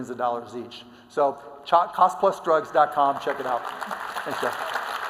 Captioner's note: applause